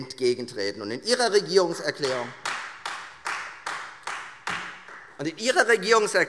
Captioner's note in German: Beifall Freie Demokraten